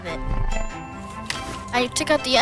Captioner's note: lively music; bell pinging